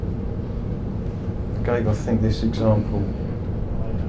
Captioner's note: sighs